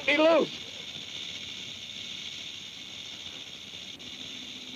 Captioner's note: snake rattles